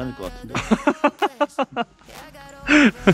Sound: laughs

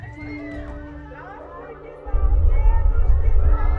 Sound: roaring sound

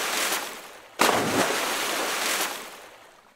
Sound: splash

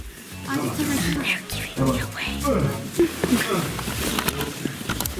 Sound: grunts

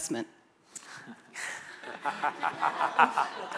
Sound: laughter

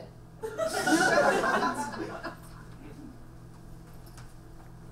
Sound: audience laughs

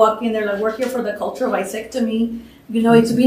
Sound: non-english

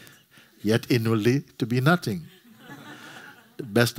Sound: laughter

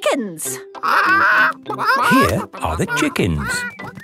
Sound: clucking

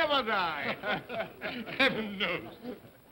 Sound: men chuckle

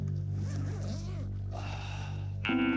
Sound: sighs

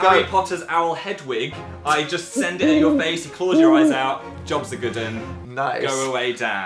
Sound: laughing

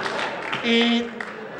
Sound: honk

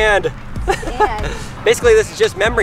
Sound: laughs

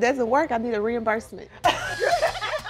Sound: laughs

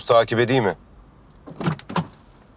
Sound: door opens

